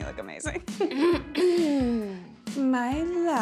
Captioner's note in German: Treville räuspert sich laut